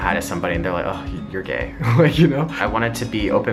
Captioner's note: laughs